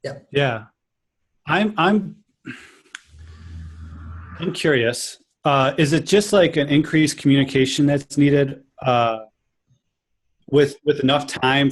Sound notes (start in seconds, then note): 2.4 sighs